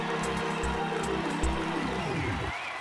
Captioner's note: cheers and applause